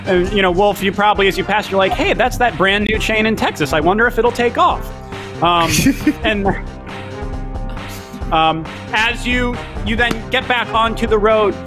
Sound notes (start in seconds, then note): 5.5 giggles